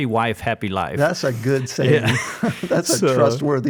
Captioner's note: laughs